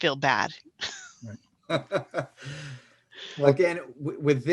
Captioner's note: chuckles softly